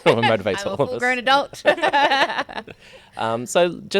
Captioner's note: laughing